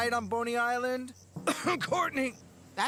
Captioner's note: coughing